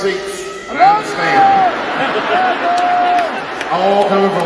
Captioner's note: laugh